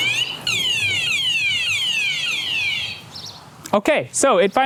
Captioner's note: blaring alarm type 2; blaring alarm type 3